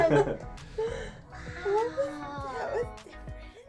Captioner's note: laughs